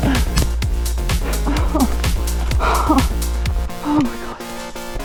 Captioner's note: general whining